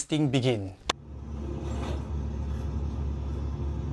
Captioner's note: ambient Sound of an Aircon bus